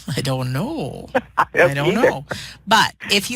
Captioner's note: laughter